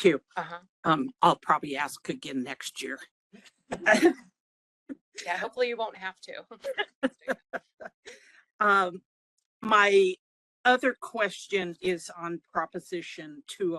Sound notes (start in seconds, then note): 3.7 laugh; 6.6 laughing